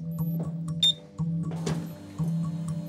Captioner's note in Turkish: MR cihazı sinyal sesi